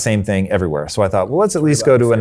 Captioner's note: murmuring quietly